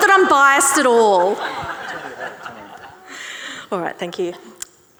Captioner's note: audience and panellists laughing